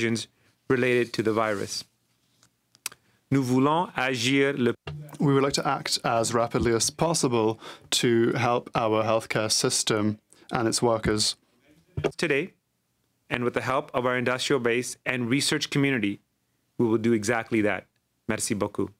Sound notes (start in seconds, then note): 7.2 speaking french